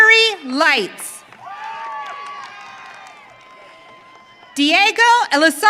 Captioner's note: audience cheering